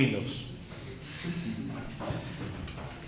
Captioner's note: giggles